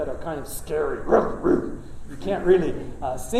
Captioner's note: gruff barking